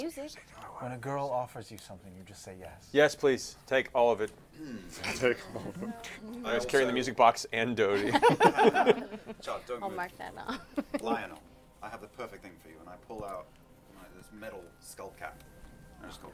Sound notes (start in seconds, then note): 7.9 laughter